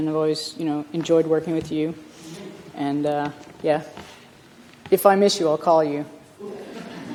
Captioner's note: laughter